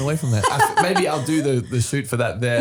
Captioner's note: laughing